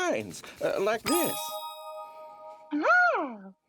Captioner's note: chimes